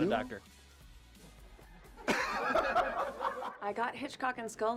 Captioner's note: laughter ensues